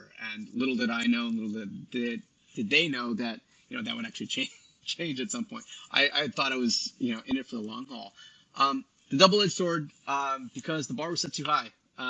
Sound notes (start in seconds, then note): 5.1 laughs